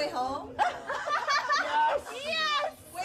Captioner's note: laughs